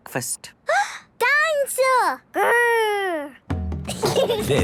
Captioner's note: gasps; children giggling